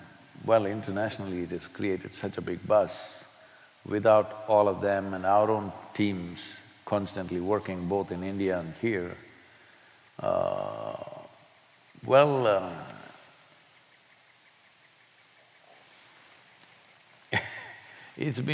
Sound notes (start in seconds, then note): 13.3 laughs